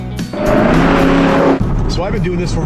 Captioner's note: engine revving